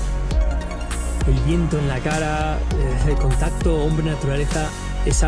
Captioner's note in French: en espagnol